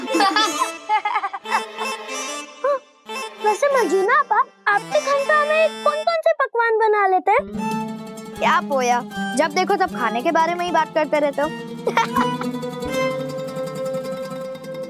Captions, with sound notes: [laughing] Well, sister Marjina, what all does your chef cook? What Poya, why do you keep talking about food? [laughing]